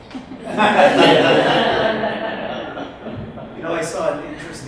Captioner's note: audience laughs